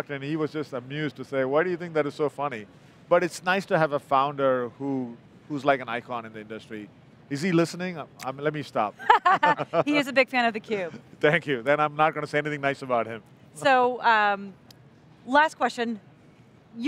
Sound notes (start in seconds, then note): 9.0 laughs